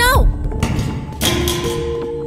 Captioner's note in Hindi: थड्स